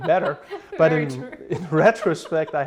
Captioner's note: laughs